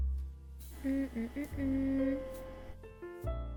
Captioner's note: humming